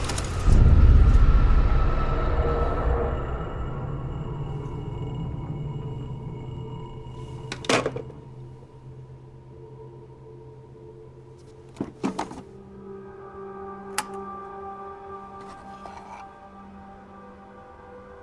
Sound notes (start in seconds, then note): 0.0 film reel ticking; 0.1 dramatic music; 7.5 phone clicks; 12.4 light dramatic music